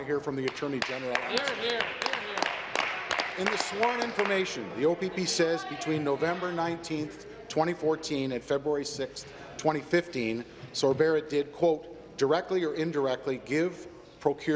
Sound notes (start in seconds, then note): 5.1 applause